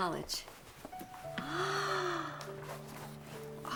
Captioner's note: gasps